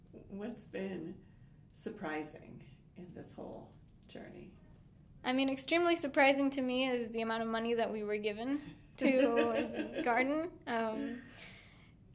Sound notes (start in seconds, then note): 9.0 laughing